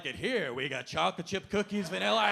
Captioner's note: audience laughing